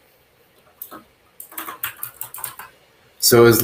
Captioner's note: keyboard clacks